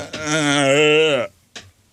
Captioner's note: groaning